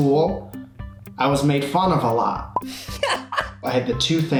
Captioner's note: laughs